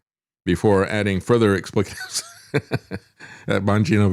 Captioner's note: laughs